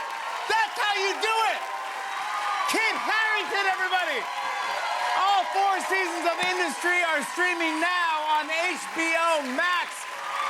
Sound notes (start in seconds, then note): 3.7 cheers and applause continue